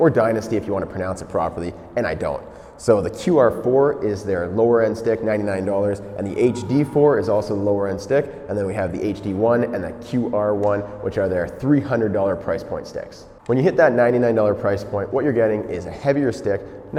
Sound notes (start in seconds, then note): none